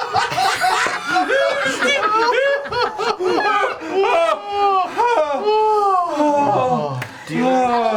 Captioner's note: exaggerated laugh; all laugh